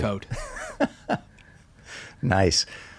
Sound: laughing

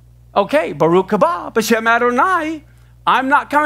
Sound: speaking Hebrew

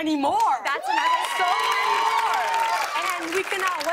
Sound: cheers and applause

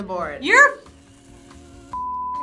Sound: beep

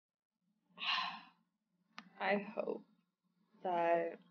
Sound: sighs

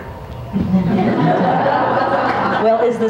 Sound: audience laughs

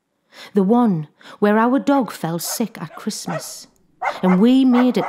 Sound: dog barks

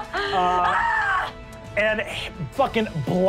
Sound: screaming

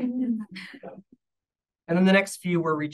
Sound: audience laughing

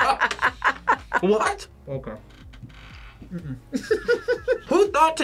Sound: both laugh; laughs

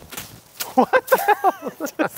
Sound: machete whipping

